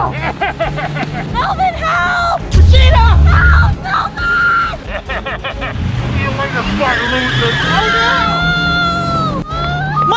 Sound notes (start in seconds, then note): 0.0 hacker laughing; 4.8 hacker laughing; 7.7 car screeching